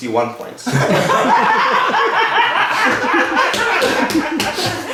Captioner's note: cheerful laughing